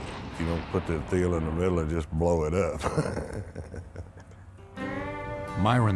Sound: laughs

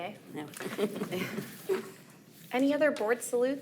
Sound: attendees chuckle

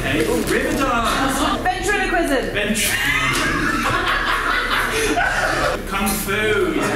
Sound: laughs

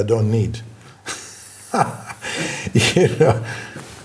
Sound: laughs

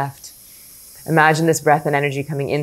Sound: inhales softly

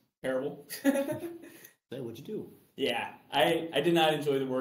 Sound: laughs

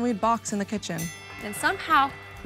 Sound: bell dings

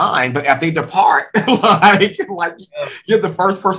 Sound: laughs

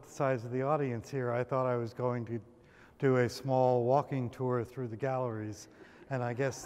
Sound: laughter

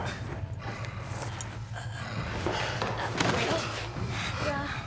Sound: gasping; panting

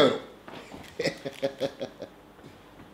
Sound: laughing

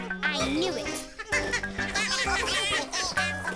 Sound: Bongalalas chuckling

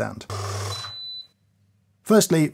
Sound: coffee grinder beeps

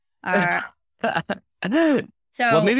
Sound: laughs

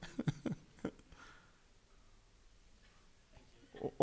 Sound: laughing

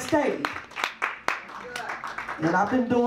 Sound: audience claps

